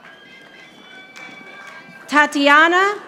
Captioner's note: audience applauding